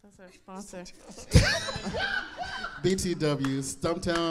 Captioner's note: audience laughing